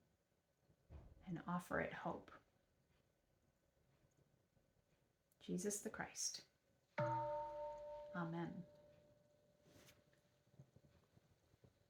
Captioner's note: louder bell rings; bell rings